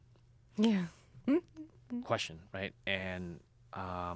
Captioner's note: laughs